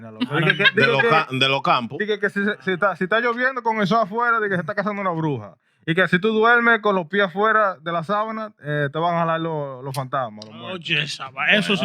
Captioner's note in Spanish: Hablando en idioma extranjero